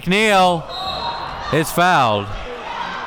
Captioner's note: whistle blows